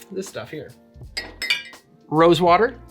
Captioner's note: glasses clanking